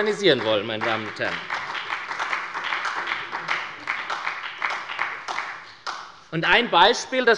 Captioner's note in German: Beifall bei der SPD